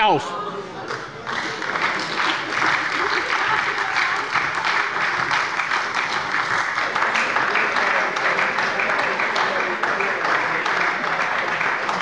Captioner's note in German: Anhaltender Beifall bei der SPD